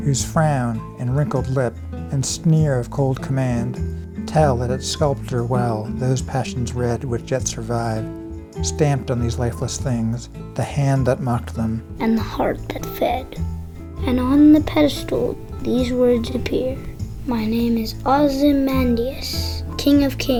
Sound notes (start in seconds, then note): 12.0 spoken by young boy's voice